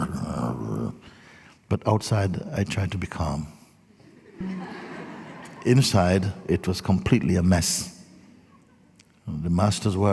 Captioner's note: laughter